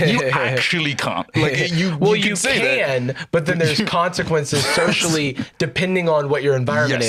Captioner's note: laughs